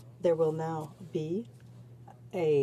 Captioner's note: speaking french